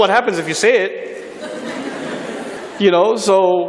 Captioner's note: laughter